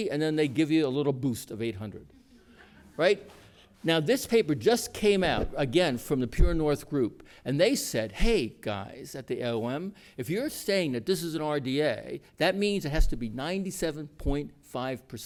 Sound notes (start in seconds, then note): 2.2 laughter